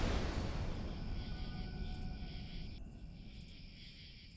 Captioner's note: insects chirping